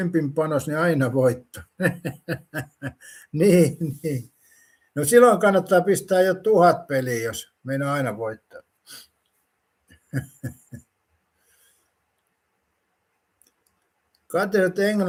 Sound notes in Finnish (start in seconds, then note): 1.5 naurua; 10.0 naurua